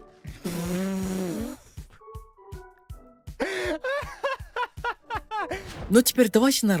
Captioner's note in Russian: Жёсткий смех Dream-а